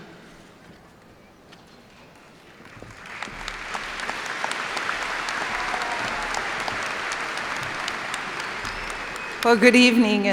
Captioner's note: cheers and applause